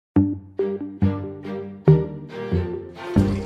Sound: toilet flushing

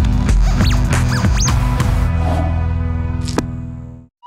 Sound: polygraph screeching

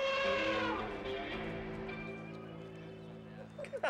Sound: trumpeting

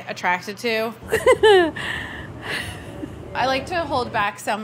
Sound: laughing

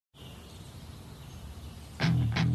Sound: birds chirping

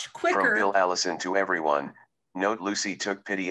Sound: recorded voice

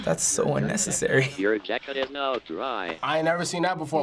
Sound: electronic voice

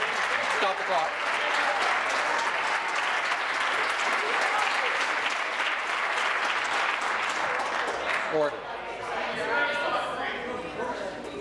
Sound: applause

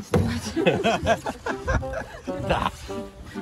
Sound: laughter

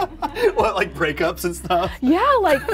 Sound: laughs

